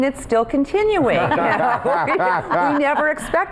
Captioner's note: group laughing